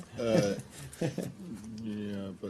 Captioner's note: laughter